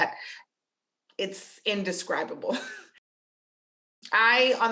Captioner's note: chuckles